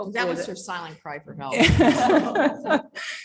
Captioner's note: chuckling